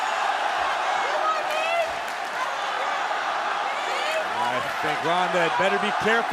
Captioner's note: crowd cheering